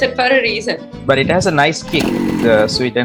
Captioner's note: motorcycle kick sound